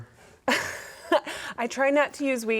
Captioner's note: guest laughing